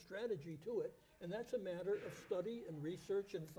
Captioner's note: object banging